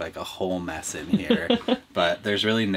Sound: laughing

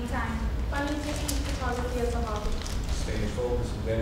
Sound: talking

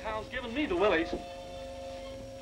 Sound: bell ringing

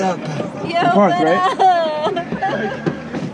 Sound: laughing

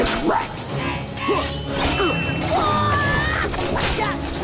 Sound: grunting

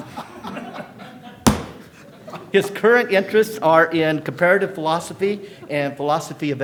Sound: laughter

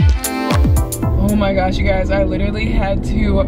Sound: traffic droning

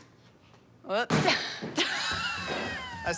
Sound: laughs; laughing

